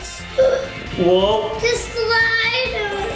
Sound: gasps

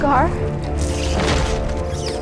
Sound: bats squeaking

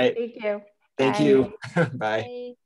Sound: chuckles

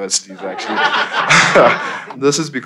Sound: crowd laughing

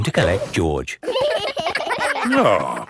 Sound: giggling

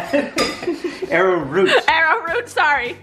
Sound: laughs

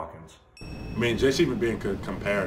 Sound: ding

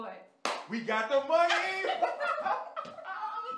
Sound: both laughing

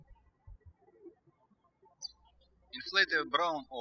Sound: birds chirping

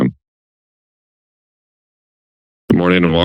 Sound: silence

